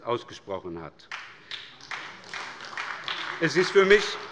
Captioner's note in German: Beifall bei der SPD